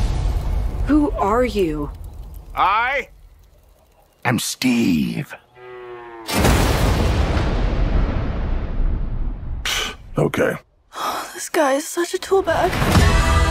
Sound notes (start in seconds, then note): 5.5 cow moos; 6.3 thunder strikes